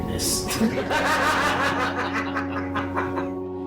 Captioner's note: laughing